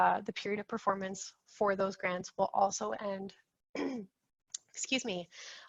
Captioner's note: clears throat